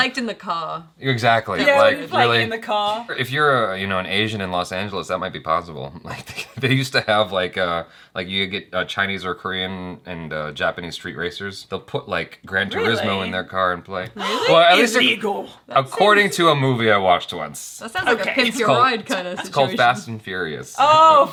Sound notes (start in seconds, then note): 6.1 chuckles